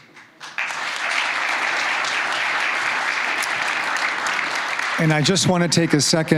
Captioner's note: applause